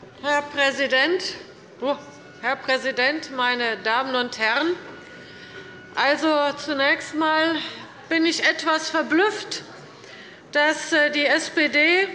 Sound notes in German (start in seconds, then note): none